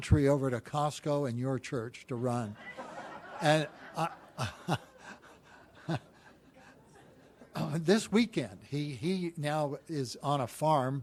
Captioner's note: laughter